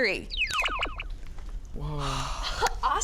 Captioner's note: laser beeping